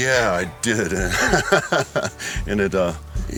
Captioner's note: laughs